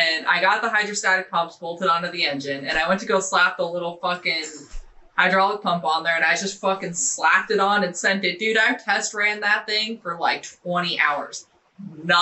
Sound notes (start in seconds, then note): none